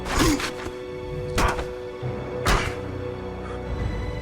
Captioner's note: soldier grunting